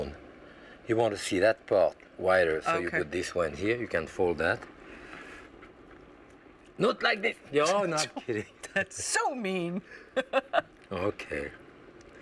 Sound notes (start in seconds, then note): 10.0 laughs